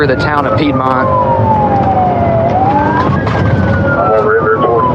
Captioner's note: sirenens s wailing